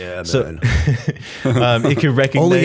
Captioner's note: chuckle